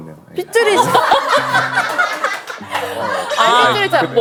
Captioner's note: laughing